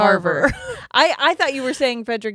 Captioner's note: chuckles